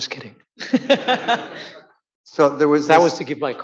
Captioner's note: audience laughing